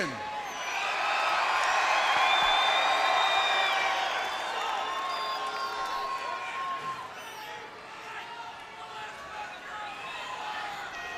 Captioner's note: crowd cheering